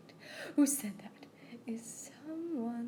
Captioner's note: singer gasps